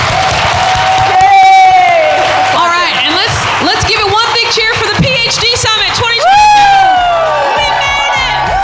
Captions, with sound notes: [applause] All right. Let's let's give it one big cheer for the PHD summit 2022. [applause and cheers!] Woohoo. We made it!